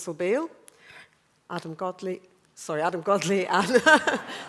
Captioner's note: laughter